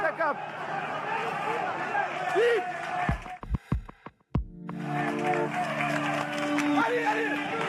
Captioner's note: shouting